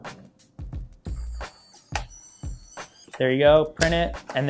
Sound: whirring

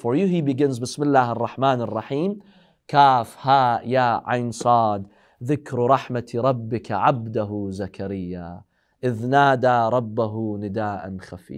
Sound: Arabic

